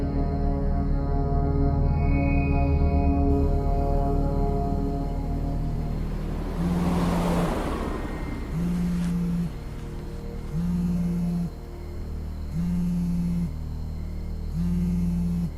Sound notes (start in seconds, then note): 0.3 insects chirping; 6.4 car whooshing; 9.1 phone buzzing